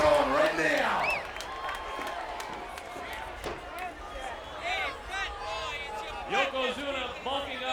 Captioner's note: applause